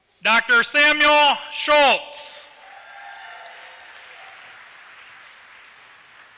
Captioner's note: applause